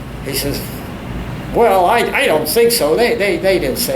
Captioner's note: none